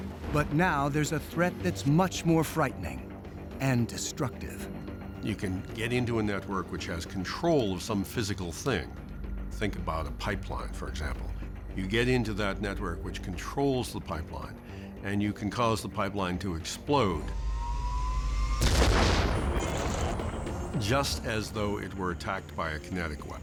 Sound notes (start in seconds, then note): 18.1 explosion